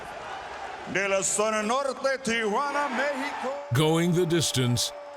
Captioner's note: announcer speaking in foreign language